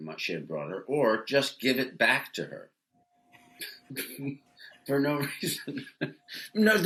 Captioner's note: chuckles